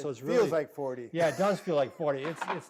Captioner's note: laughs